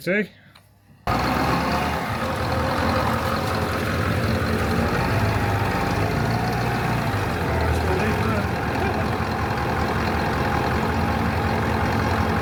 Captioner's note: engine noise